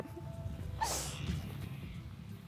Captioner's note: laughs